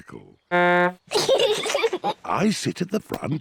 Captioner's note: toots horn; both giggle